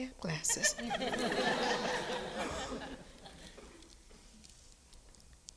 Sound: audience laughing

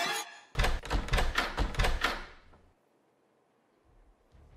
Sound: door rattles

